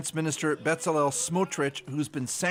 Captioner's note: crying